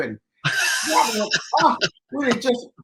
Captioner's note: laughs; exclaims